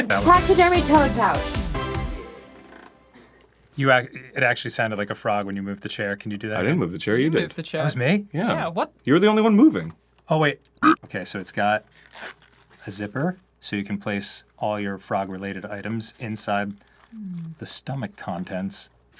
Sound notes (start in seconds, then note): 1.9 silence is so strong you can hear chair croak as he leans forward; 10.8 frog ribbit sound